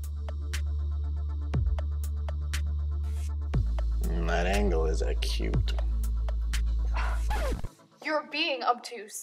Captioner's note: huffs, then collapses